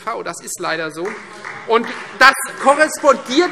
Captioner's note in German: Beifall Freie Demokraten